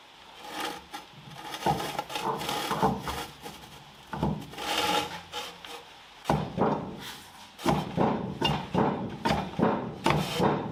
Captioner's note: working sound